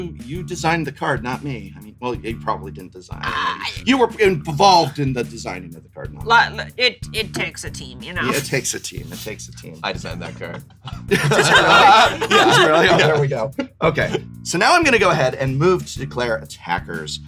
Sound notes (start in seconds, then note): 8.2 laughs; 10.0 laughter